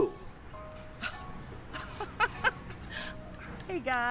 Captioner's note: starts laughing heartily